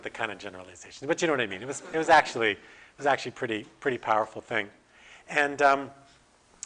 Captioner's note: audience: Laughter